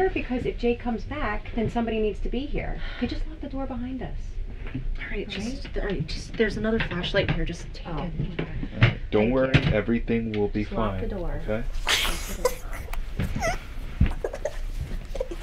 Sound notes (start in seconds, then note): 11.8 child laughing